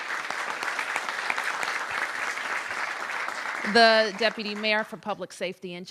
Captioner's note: applause